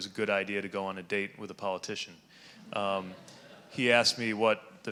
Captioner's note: audience laughing